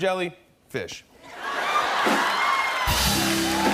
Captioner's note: laughter and applause